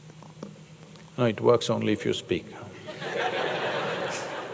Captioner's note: laughter